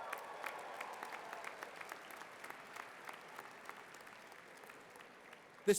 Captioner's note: applause